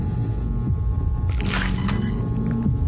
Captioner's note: screeching noise